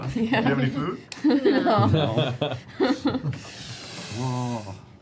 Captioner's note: laughter